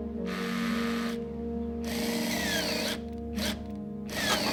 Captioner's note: soft suspenseful music; drill buzzing; soft suspenseful music